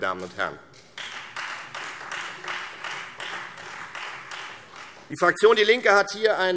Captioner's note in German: Beifall Freie Demokraten